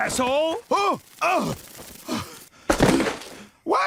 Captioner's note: groans loudly; loud thud